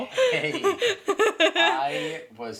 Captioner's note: laughs